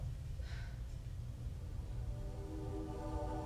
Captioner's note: Miriam sighing